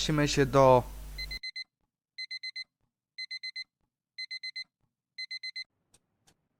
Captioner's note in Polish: alarm